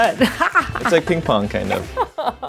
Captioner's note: laughing